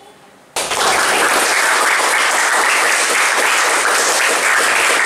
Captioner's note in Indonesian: Suara Tepuk Tangan